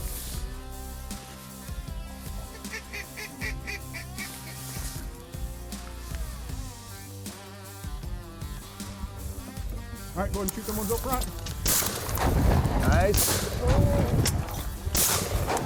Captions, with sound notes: (duck quacking) (upbeat rock music) - All right, go ahead and shoot them ones up front. (gun fires) Nice. (gun fires)